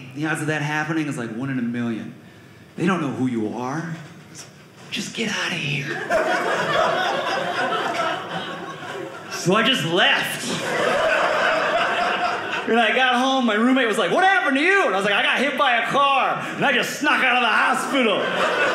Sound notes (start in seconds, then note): 5.8 audience laughing; 17.1 audience laughing